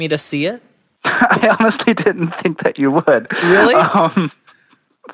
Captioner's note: laughs